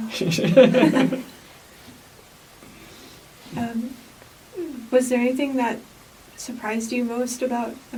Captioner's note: laughs